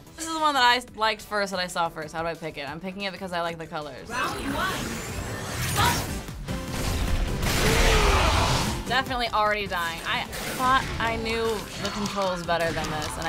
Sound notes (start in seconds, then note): 7.6 Pokémon snarl